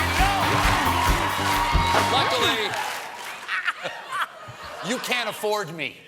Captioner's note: laughter